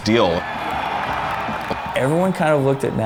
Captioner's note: cheers